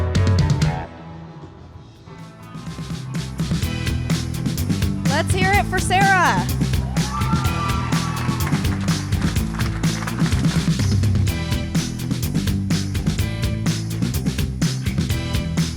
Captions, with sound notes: Let's hear it for Sarah! (audience cheers and applauds) (upbeat surf-rock music continues)